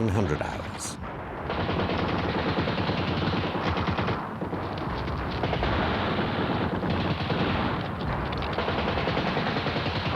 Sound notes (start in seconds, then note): 0.9 gunfire